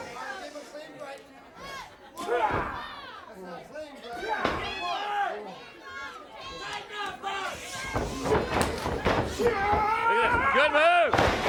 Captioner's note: crowd chatter